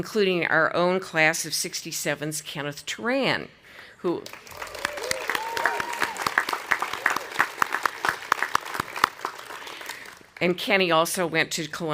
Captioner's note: audience applauding